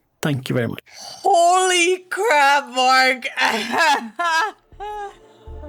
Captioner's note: laughs